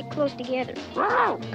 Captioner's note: Arrow barking